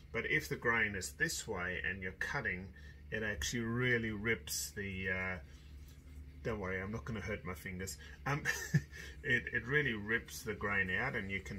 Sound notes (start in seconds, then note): 7.9 laughs